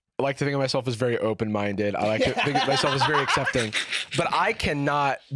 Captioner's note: laughing